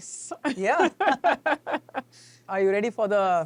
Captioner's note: both laughing